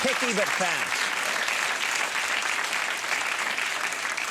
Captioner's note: crowd cheers